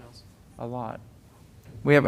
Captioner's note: off microphone